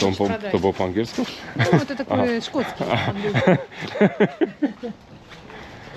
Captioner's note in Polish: śmiech